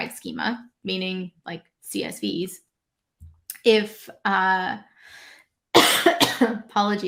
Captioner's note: coughs